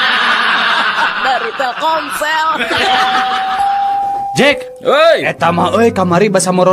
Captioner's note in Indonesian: tertawa